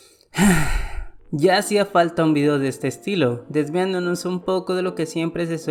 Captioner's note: Suspiro